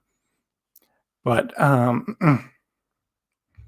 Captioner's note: clears throat